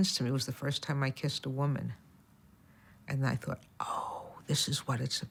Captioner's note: none